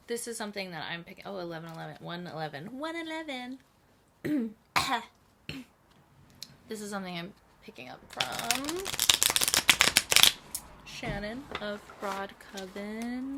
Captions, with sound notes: This is something that I'm picking-- Oh 11:11-- 1:11 1:11! [dramatically clearing throat] This is something I'm picking up from [shuffling] Shannon, of Broad Coven